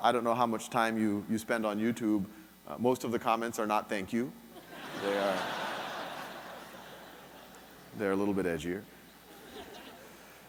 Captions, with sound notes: I don't how much time you spend on YouTube, most of the comments are not thank you. (audience laughing) They're a little bit edgier.